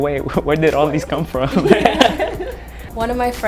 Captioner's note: laughter